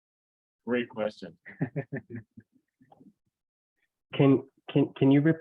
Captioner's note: chuckles